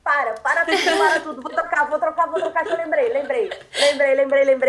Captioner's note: laughter